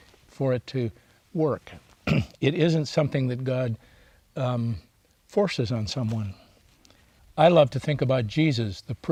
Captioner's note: clears throat